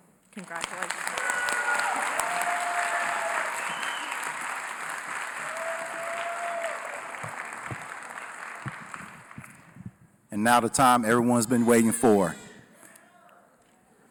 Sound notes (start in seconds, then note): 0.3 applause